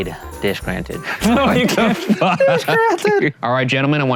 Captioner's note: all laughing